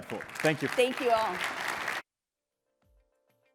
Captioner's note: applause